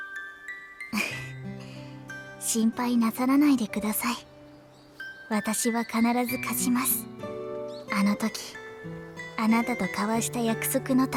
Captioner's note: giggle